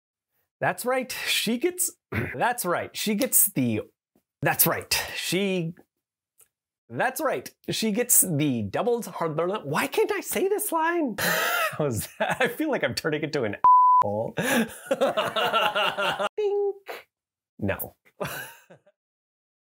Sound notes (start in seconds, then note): 14.4 laughs; 15.8 imitates a chime; 18.2 laughs